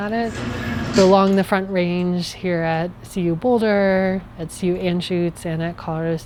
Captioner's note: machine whirring